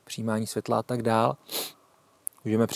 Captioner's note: sniff